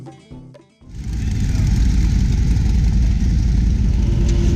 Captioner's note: acoustic guitar music; engines revving